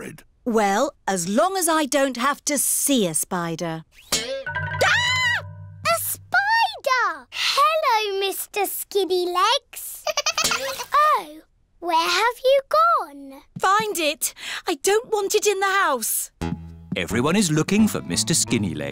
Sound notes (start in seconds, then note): 4.9 screams; 10.0 giggling